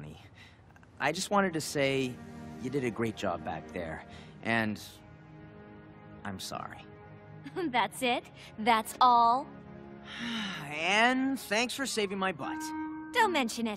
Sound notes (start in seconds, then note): 10.1 sighing